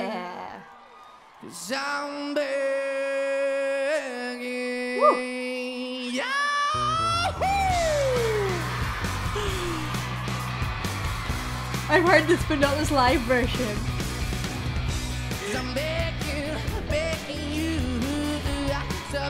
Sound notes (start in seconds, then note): 7.9 audience cheering; 7.9 upbeat music